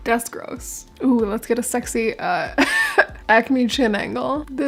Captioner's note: laugh